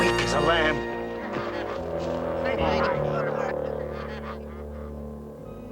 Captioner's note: soldiers whispering happily